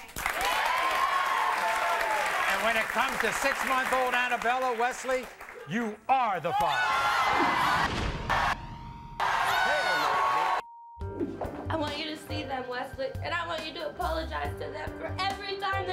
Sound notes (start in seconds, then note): 0.0 audience applauding; 6.8 screaming